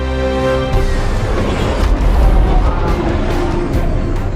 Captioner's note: engine roars